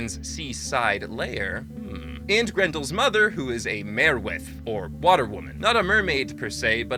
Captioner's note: hmmm